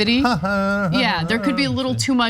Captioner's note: laugh